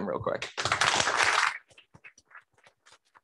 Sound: applause

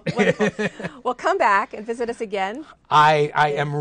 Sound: laughter

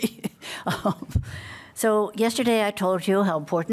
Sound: laughter

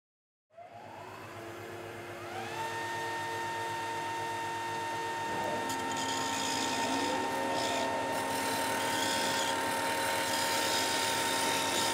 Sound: machine sounds

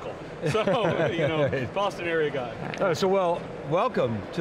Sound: laughs

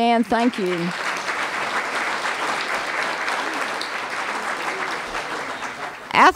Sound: applause

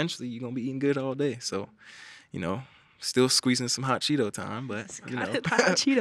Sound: chuckles

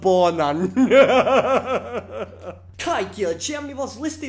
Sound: evil laughter

